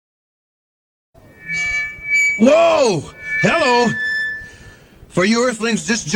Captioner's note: microphone screech